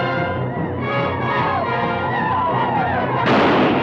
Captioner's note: native Americans howl; guns fire